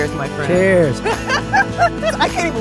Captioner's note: laughs